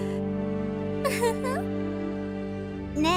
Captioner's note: awkward laugh; giggle